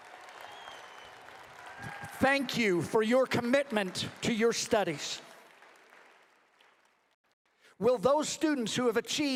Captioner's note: applause